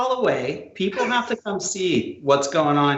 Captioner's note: laughs